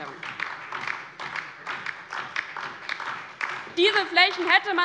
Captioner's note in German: Beifall DIE LINKE und vereinzelt SPD